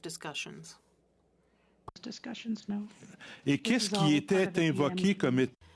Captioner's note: speaking French